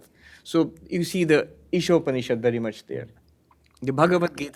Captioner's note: hindi